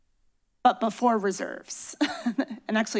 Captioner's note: chuckles